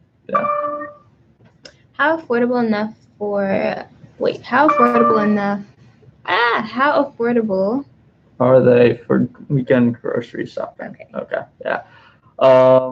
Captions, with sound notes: (computer dings) How affordable enough for wait. How formidable enough. (laughing) How affordable. - Are they for weekend grocery shopping, okay, yeah.